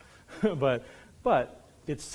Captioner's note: laughs